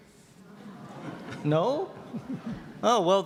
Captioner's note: audience laughter